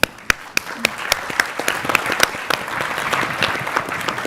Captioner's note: audience clapping